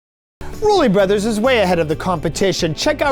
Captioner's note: voice-over